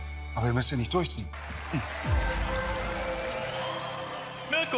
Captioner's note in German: Applaus